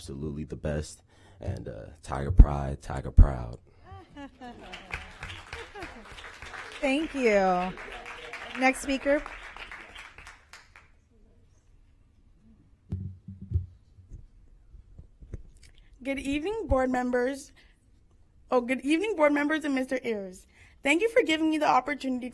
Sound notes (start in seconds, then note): 10.2 applause